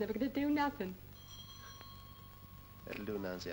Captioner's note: bell rings